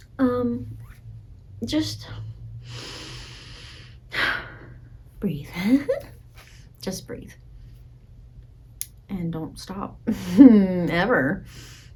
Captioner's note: inhale and exhale